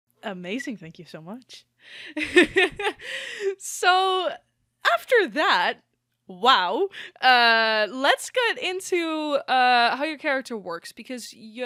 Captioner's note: laughs